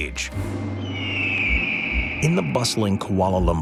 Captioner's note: bird screeching